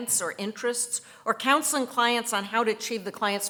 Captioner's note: none